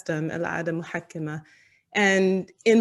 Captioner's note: non-english speech